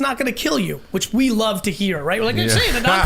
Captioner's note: laughing